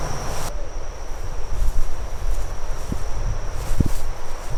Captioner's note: insects chirping